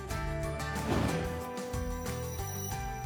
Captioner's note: whoosh